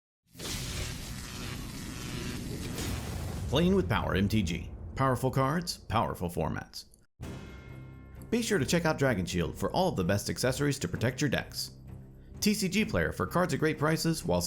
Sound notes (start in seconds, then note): 0.4 electricity buzzing; 7.2 serious orchestral music